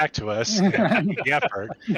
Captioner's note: laughter